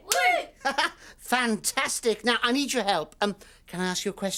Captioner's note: laughing